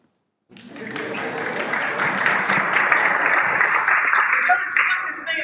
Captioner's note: applause